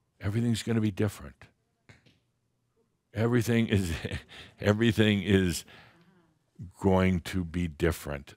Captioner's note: there’s more crackling sounds, chuckles